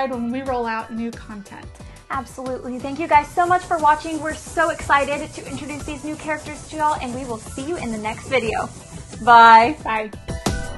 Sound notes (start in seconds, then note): 2.7 train chugging sounds; 9.5 upbeat music